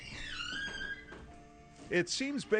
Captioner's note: door creaks open